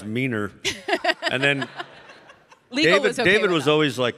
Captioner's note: laughs